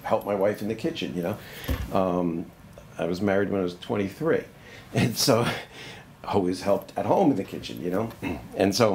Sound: laughs

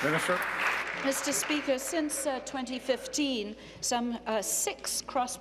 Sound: applause

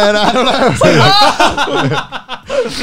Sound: laughing

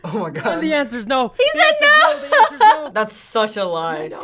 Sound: laughs

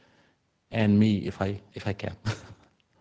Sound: laughs

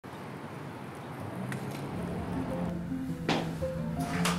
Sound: bike gears clicking; gentle music

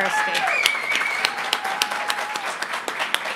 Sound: applause

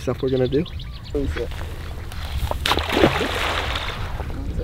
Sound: splashes

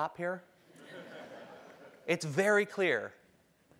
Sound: laugh

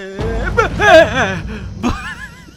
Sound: shouts; laughs

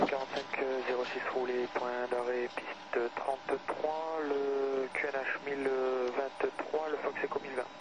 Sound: speaking french

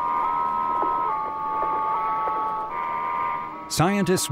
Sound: Mariner signals beeping

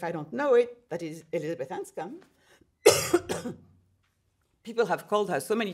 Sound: coughs

